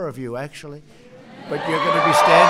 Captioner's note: applause